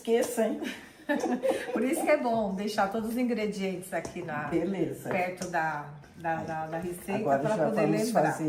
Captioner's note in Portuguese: risadas